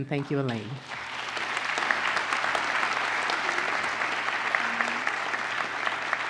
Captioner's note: applause